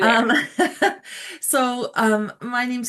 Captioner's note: chuckles